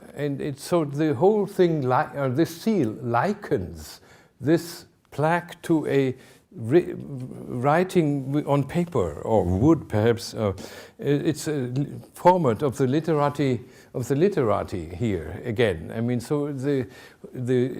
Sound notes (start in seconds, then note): none